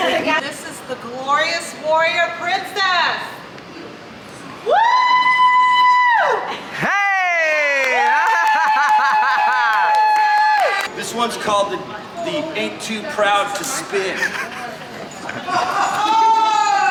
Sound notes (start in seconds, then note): 8.2 laughing; 9.4 people clapping and cheering; 14.0 laughing